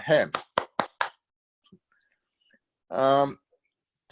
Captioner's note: claps hands